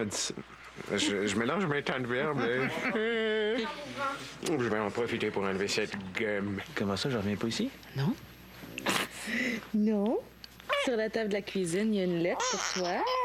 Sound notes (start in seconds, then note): 9.1 Le bébé pleure